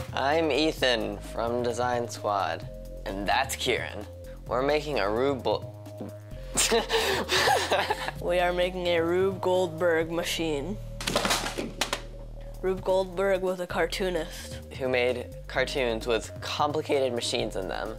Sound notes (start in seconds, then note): 6.6 laughing